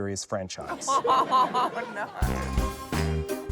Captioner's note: laughter; quirky music